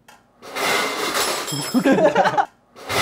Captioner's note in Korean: 우당탕탕